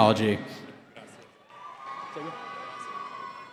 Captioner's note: cheering